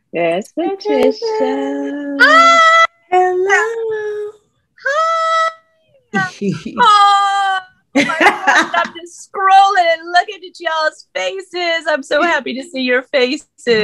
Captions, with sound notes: - There's Patricia. - Hi! - Hello! - Hi! (laughing) Look at y'all's faces, I'm so happy to see your faces.